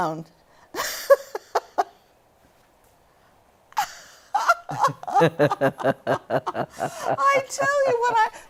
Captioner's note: laughter